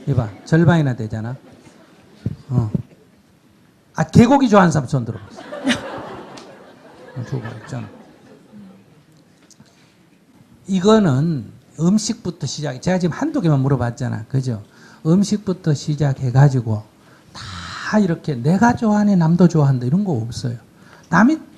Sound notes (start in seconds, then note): 5.1 audience Laughter